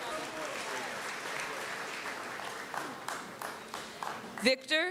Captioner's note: applause